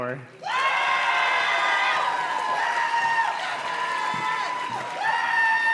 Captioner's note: audience cheers and claps